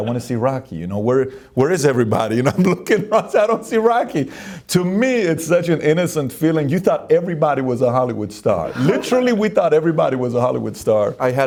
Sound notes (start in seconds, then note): 2.3 laughs